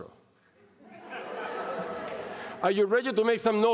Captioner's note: laughter